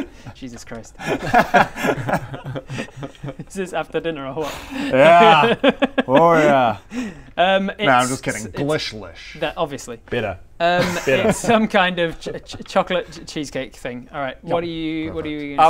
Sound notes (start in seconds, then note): 1.0 remorseless giggles